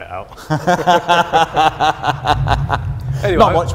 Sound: laughter

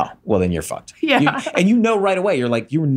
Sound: laughs; chuckles

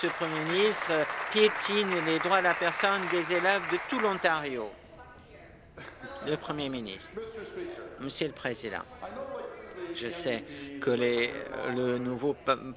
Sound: applause

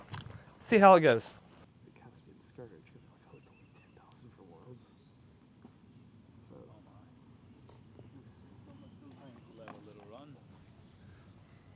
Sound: pause

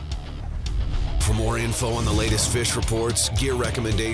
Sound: voiceover

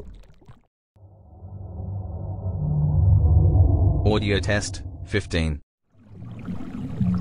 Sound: eerie ethereal transitional SFX

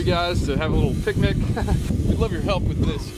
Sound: chuckles

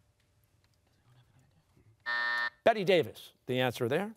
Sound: buzzer sounding

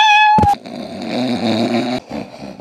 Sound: escaping sniff; sniff panic

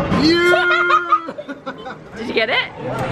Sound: laughing

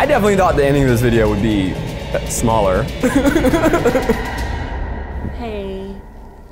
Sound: laughs

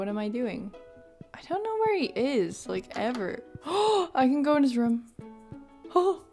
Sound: gasp

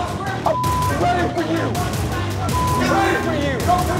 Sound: beep

